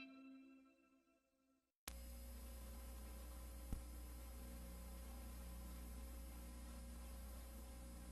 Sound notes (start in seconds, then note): 1.9 VHS static